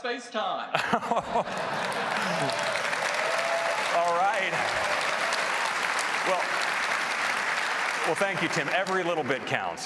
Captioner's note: applause